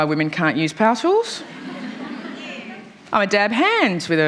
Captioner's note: laughter